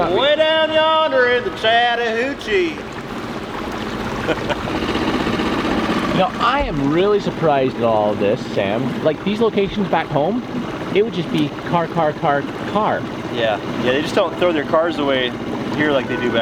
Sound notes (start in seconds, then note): 4.0 laughing; 4.9 engine revving; 13.8 upbeat music